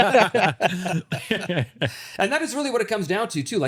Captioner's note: both laughing